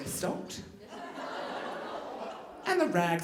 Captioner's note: audience laughing